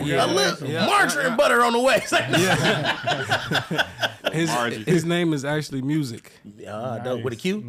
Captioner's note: all laughing